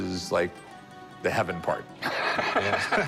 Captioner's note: laughs